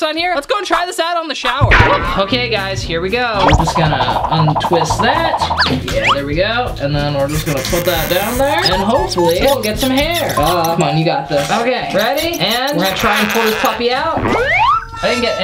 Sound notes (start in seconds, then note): 3.4 whirling noise; 14.6 perky music